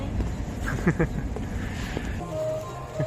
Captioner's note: laughs